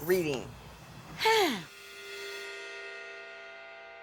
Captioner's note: sighs